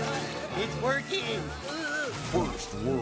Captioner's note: Stewie grunting